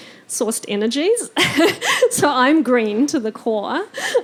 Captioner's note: laughing